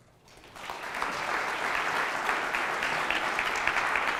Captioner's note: applause